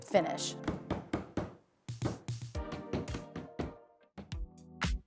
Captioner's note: hammer pounding; upbeat music